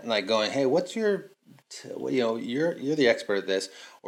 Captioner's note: none